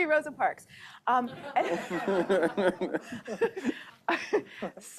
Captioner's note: laughter